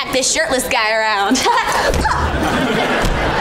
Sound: grunting

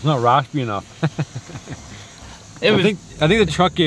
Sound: laughs

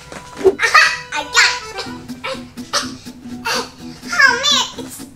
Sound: straining

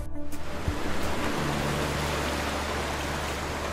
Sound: water rushing

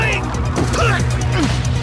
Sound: grunts

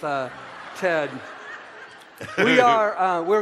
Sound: audience laughter

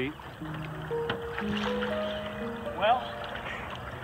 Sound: water splashing

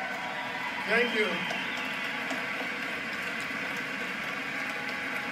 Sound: applause

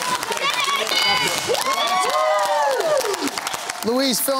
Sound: cheering

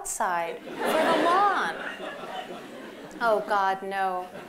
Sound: laughter

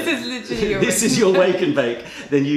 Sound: laughter

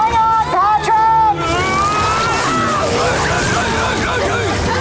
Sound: yelling

